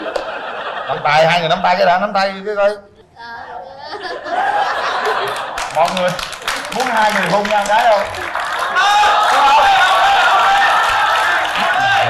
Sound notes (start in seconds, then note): 5.1 applause